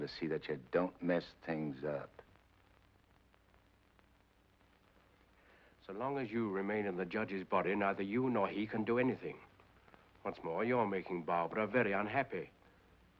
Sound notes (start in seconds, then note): none